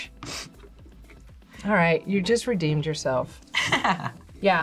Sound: laughs

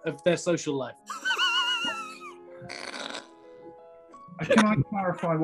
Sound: sniggering

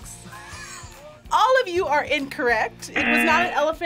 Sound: buzzer

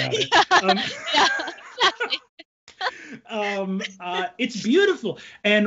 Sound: laughs

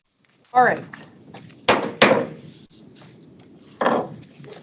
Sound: gavel taps

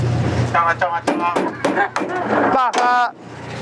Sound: banging on truck side

